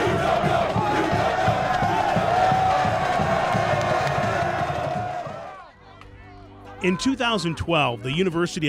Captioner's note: cheering